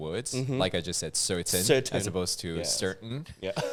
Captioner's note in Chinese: 英式